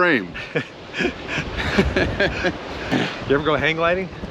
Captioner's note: laughs